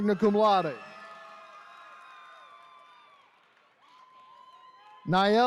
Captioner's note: attendees cheering